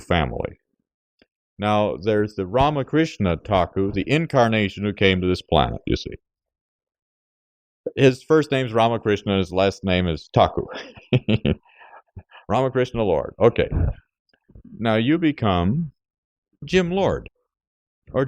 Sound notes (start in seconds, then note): 10.6 laughs jokingly